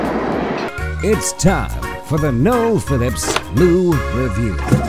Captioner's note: voiceover